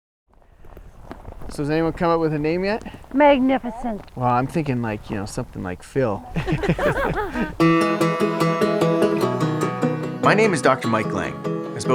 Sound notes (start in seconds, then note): 6.2 group laughs; 6.5 upbeat guitar music